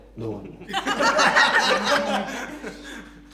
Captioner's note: everyone laughs